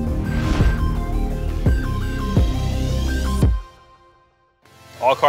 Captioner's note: whooshing sound effect; mellow electronic music